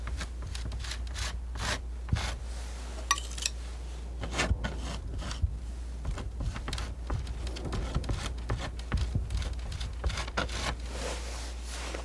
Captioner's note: scratching